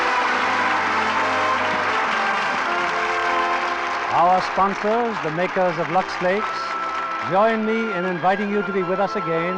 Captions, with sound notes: (audience applauding) (upbeat music) Our sponsors, the makers of Luxe Lakes, join me in inviting you to be with us again